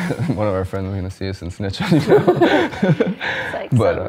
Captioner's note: laughs; laughing